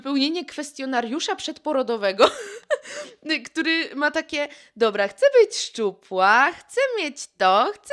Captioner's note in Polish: śmiech